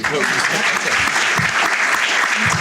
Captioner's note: applauds; audience applause